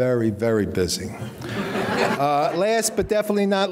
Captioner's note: audience laughing